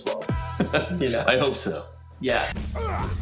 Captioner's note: chuckles